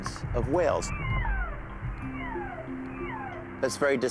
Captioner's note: echoing whale calls